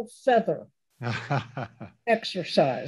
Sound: laughs

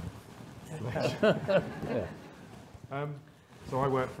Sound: all laughing

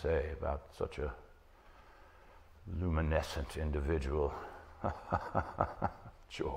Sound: laughing

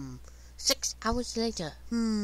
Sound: in British Voice

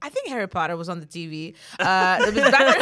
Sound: everyone laughs

